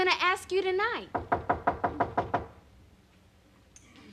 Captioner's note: knocking on door